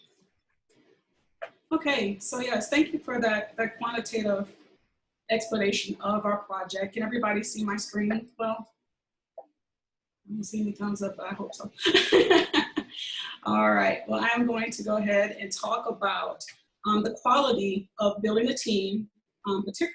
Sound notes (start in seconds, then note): 11.8 laughing